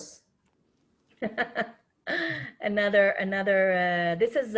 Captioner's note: laughs